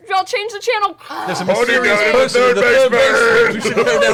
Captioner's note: shouting